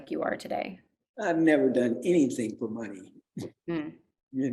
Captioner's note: chuckles